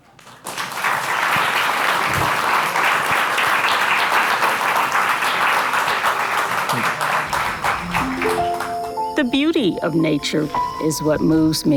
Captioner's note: applause